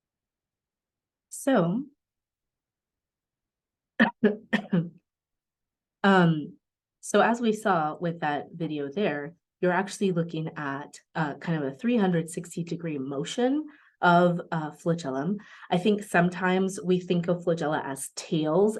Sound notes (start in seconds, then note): 3.9 coughs